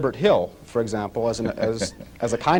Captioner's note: Malcolm X laughs